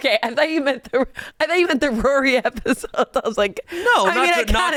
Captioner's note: laughs